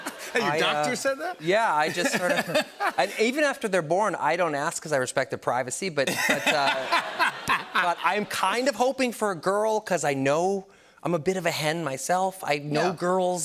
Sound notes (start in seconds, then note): 0.0 laughter; 6.0 laughter